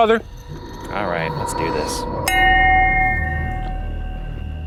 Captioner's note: bell rings